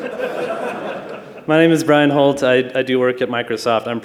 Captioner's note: laughter